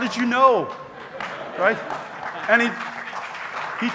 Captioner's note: audience members clapping